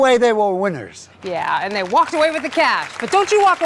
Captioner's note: applause